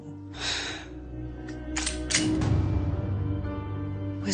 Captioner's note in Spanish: Sonido al cargar el arma